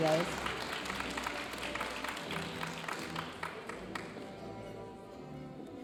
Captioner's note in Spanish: aplausos de la audiencia